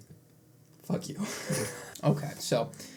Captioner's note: wheeze